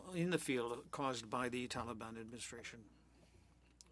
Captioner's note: speaking French